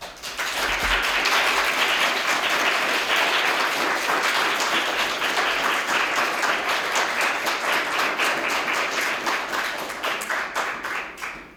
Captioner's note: applause